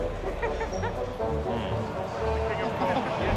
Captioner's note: laughter